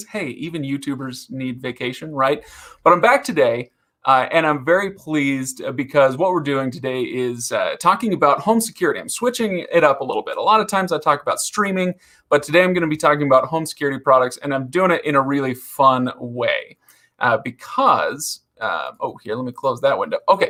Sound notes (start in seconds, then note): none